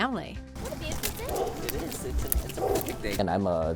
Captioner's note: chatting with his family